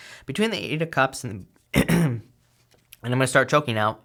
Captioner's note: coughs